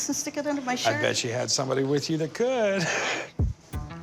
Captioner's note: chuckles